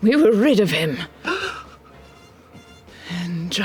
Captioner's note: gasps